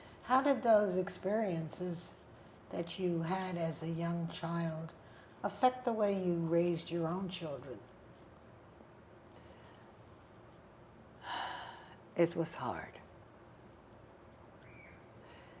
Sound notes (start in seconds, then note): 11.2 sighing